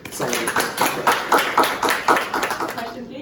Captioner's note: applause